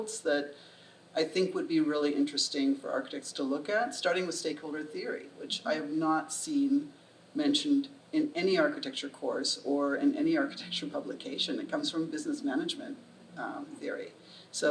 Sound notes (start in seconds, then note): none